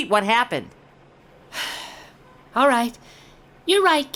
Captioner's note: sighs